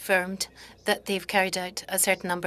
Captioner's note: speaking French